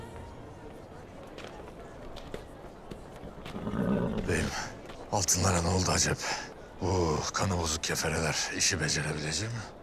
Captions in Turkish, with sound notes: (Sokak ortam sesi) (At kişneme sesi) Beyim, altınlara ne oldu acep? Bu kanı bozuk kefereler işi becerebilecek mi?